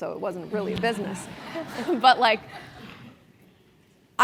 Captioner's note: laugh